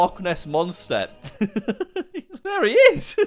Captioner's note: laughs